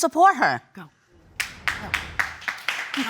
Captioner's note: audience clapping